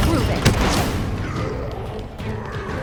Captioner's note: Escheraum snarls